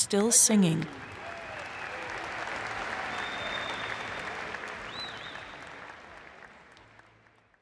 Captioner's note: applause